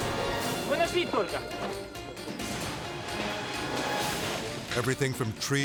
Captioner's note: person speaking foreign language